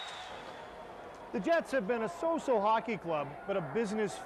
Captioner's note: cheering